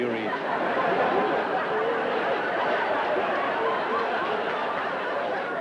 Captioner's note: laughter